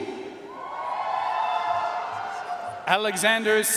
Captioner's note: audience cheering and applauding